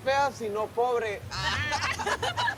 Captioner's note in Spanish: Risas